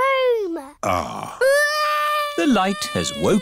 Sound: crying

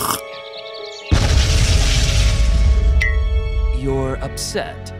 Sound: straw slurping; explosion booms

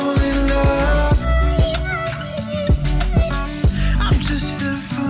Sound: sharp female voice

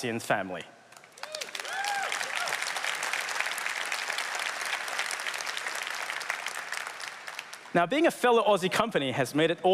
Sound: applause

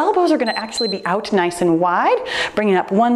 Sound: timer beeps

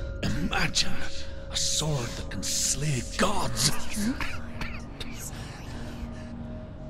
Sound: cough

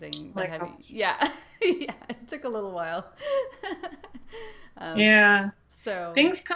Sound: laughs

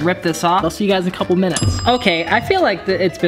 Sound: timer dings

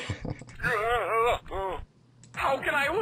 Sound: eughhh

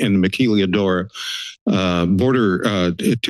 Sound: inhales

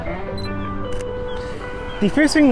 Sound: camera shutters

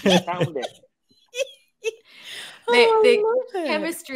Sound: Shobna laughing

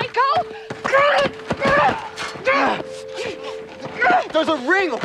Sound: Natalie grunting

